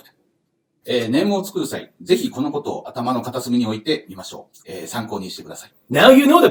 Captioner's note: speaking Japanese